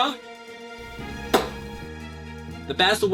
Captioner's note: lip smack